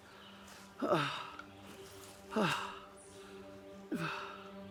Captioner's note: Arawn groaning; soft dramatic music; birds chirping